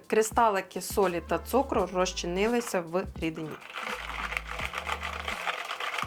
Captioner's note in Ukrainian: оплески